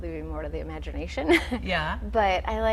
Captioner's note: laughing